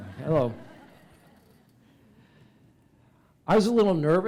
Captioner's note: laughter